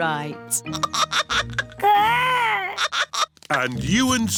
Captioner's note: giggling